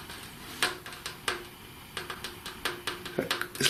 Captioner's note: tapping